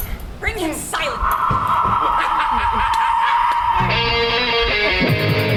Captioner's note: wind howls ominously; Bottom laughs; energetic rock music